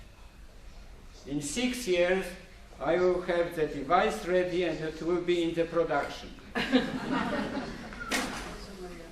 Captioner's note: laughter